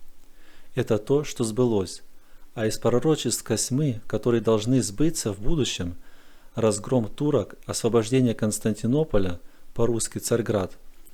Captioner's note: in Russian - Constantinople